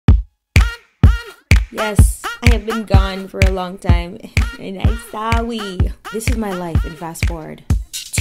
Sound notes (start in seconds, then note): 4.4 baby voice